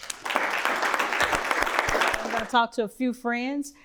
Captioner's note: people clapping